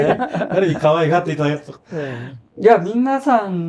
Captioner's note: laughs